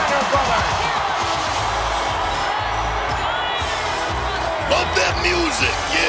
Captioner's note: audience cheers; upbeat music